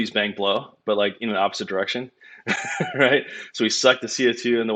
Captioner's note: laughs